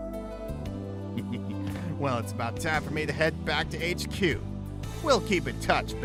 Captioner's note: chuckles